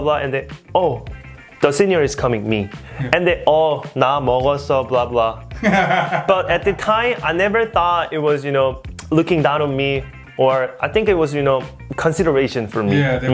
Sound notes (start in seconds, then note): 3.1 speaking in Korean